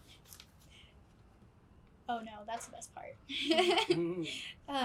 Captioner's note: laughs